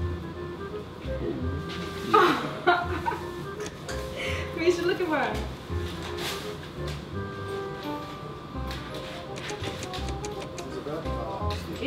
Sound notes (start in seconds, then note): 2.1 laughing; 7.3 playful music